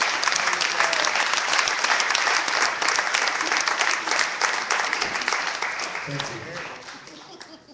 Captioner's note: clapping